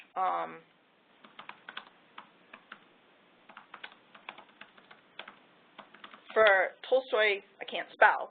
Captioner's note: typing